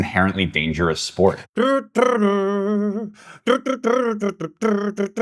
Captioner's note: humming